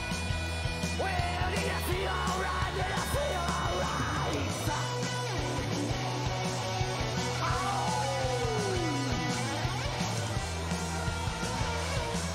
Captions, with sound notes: Well, do you feel all right? Do you feel all right? [MYRON YELPS]